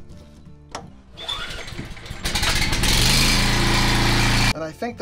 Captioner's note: generator motor growling